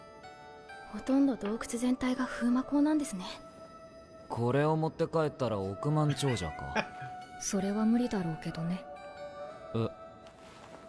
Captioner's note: chuckles